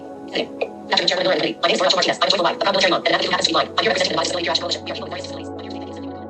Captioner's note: sound of an iPhone screen reader at 2X speed